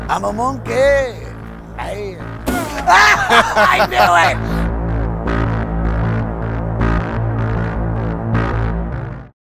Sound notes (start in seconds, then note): 2.7 gorilla roars; 2.8 screams; 4.9 scary music intensifies